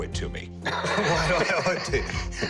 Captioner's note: laughs